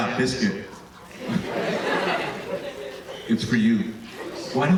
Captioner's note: audience laughing